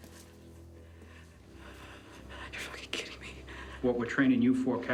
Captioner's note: whispers